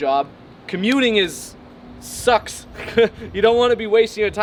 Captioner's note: laughs